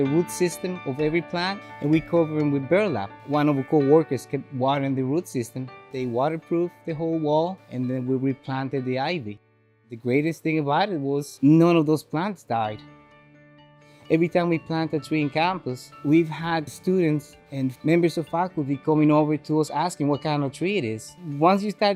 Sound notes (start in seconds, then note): none